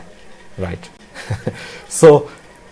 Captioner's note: laughs